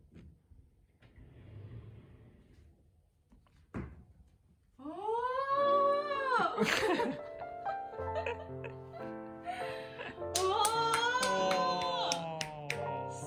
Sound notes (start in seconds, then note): 9.4 laughs